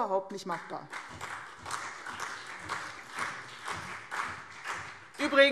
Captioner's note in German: Beifall CDU und BÜNDNIS 90/DIE GRÜNEN